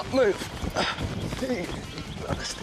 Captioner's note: grunts